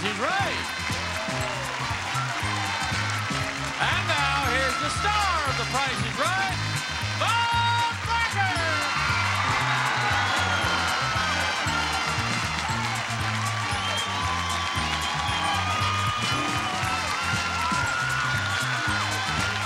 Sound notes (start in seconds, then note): 2.6 audience cheering; 8.5 audience cheering; 9.9 audience laughing; 12.1 audience applauding